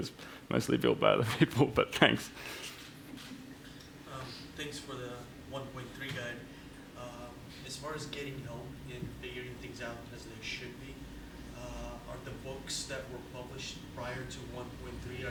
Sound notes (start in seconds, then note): 1.2 chuckles; 4.6 voiceover